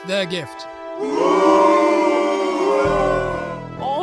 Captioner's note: crowd booing